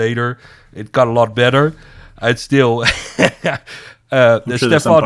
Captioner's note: laughs